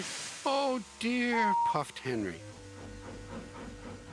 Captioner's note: whistles